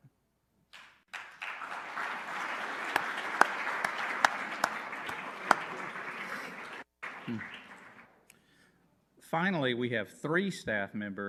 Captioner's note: applause